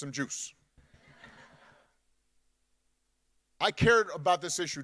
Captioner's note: audience laughing